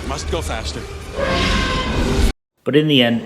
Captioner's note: T-Rex roaring